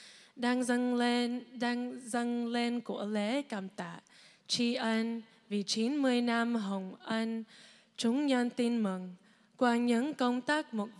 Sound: speaking non-english

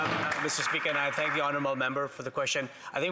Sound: applause

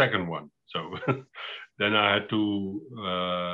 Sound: laughs

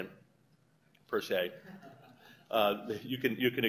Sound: laughter

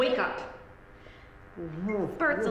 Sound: Bert groaning

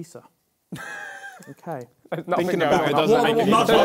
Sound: laughs; crowd mumbling

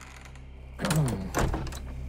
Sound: clears throat

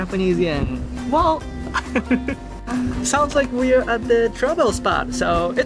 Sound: chuckle

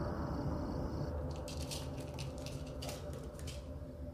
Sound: clattering

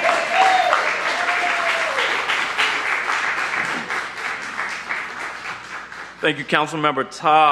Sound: cheers and applause

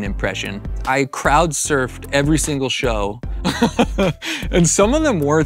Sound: laughs

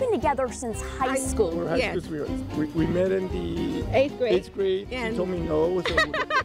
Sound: laughter

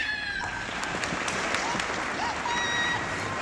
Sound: applause

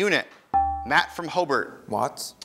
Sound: ding

